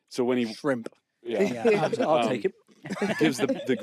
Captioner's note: laughter